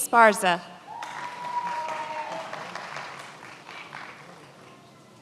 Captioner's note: many applauding